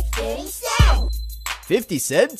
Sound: bling

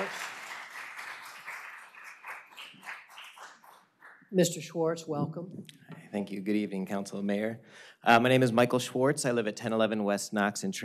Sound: applause

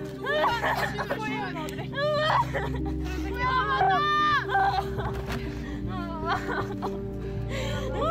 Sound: cries

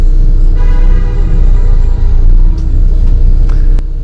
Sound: continued honking

